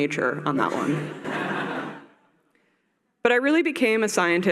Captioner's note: laughter